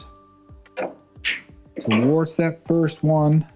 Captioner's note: balls clanging